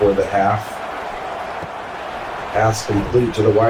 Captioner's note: crowd Noises